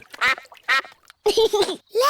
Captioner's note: quacking; giggles